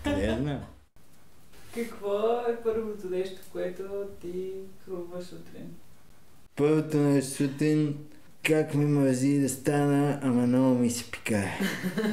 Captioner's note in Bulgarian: избухват в смях